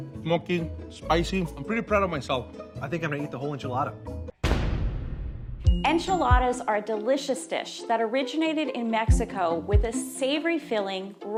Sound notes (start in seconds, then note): 4.4 dramatic crash